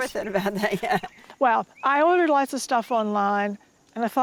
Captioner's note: murmurs